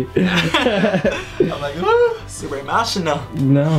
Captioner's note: laughing